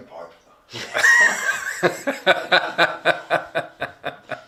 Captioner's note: all laugh